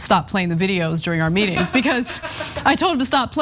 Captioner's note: laugh